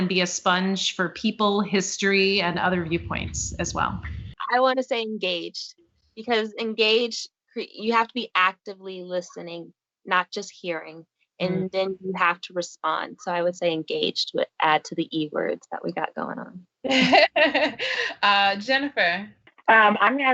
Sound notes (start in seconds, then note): 16.8 laughing